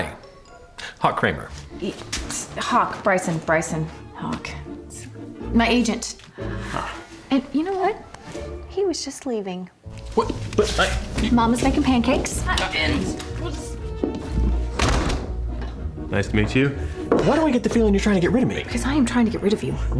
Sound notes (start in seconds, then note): 12.8 door opens, closes